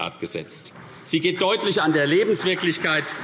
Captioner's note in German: Beifall CDU